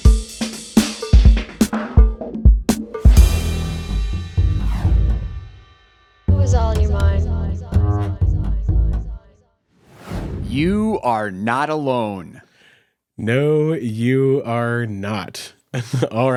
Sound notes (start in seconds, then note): 0.0 upbeat music; 9.8 title whooshes; 15.7 chuckles